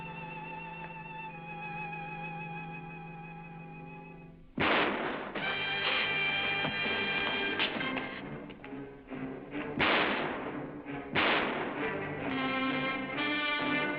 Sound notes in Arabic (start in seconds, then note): 4.5 طلق ناري; 9.6 طلقات نارية